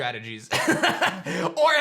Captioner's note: laughs